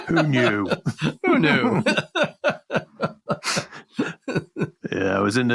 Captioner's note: laughs